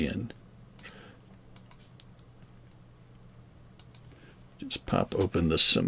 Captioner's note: mouse clicking